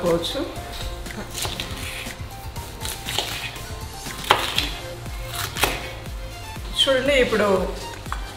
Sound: chopping Noise

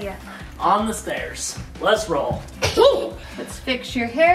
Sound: giggling

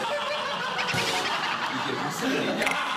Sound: laughing

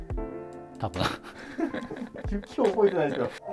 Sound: laughing

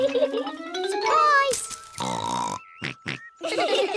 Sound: both laugh; oinks; all laugh

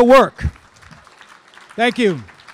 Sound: audience applauding

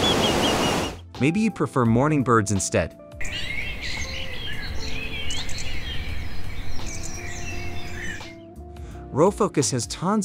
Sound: sea waves thrashing; birds chirping

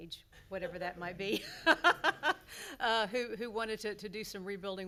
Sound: laughing

